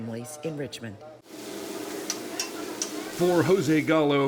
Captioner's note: food sizzling; metal clanging